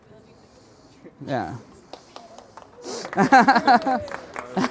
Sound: sounds of applause and laughter

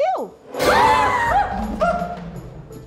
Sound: nightmarish sting; the boys scream

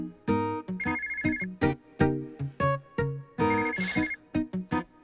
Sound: phone ringing

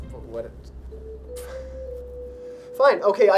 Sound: sighs in desperation

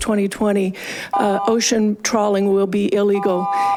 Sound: buzzer chiming

